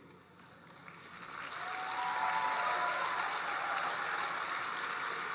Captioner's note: applause